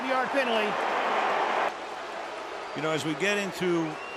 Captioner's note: booing